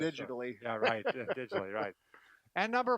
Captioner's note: laughing